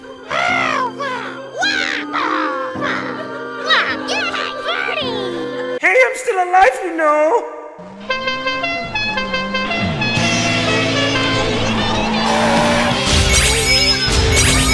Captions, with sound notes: [Speaking Toadish] Hey, I'm still alive you know? [Honk-a-bonko]